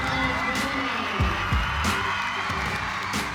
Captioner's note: cheering